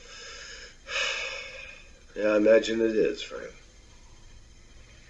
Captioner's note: sighing